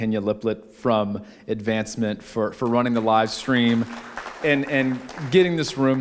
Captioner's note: applause